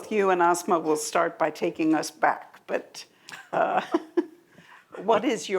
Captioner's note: laughs